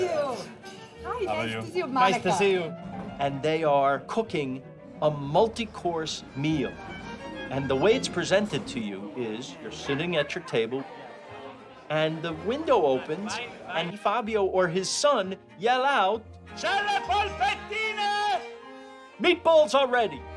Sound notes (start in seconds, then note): 9.3 shouting in Italian; 13.4 more shouting in Italian